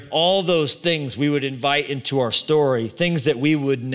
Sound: none

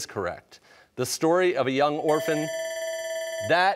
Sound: bell ringing

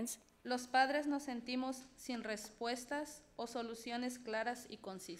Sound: speaks foreign language

